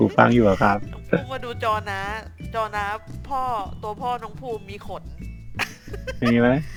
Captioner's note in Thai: หัวเราะ